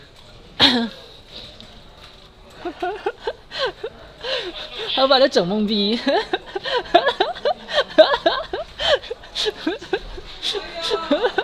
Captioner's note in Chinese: 大笑